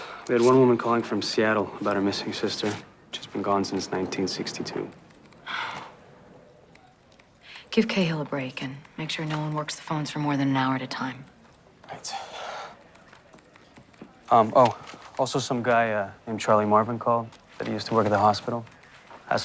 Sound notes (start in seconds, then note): 5.3 sighs